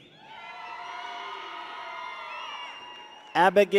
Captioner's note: people cheer